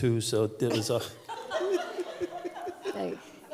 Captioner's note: laughter